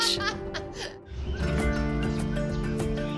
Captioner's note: birds chirping